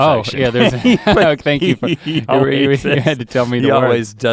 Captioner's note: laughing